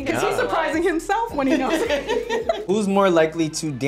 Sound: laughs

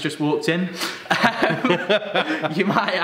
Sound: both laugh

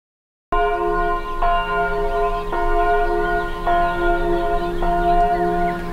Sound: church bells ringing loudly

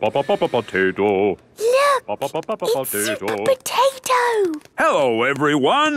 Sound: hushed

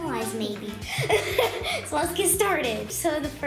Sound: laughter

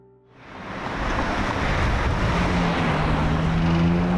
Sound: car engine roaring

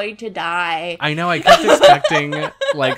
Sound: laughs

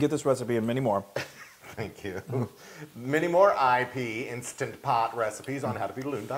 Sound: laugh

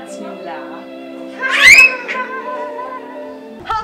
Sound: squeals; laughs

